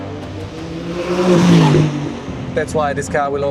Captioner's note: engine revs